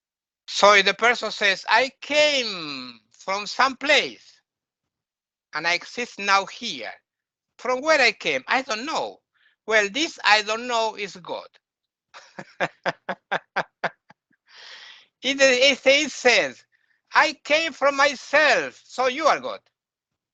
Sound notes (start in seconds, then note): 12.2 laughing